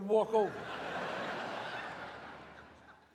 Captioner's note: audience laughs